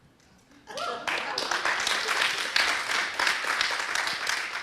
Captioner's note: people clapping